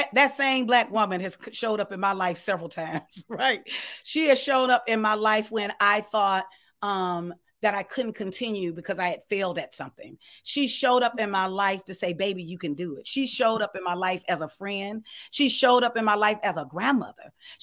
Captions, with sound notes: That same black woman has showed up in my life several times. (chuckles) She had showed up in my life when I thought that I couldn't continue because I had failed at something. She showed up in my life to say, baby, you can do it. She showed up in my life as a friend. She showed up in my life as a grandmother.